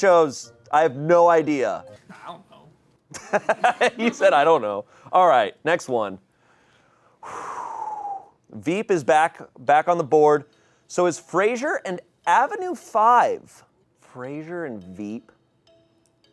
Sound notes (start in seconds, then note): 3.1 laughs; 3.2 audience laughing; 6.4 exhales sharply